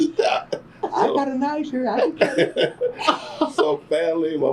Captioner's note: laughter; laughter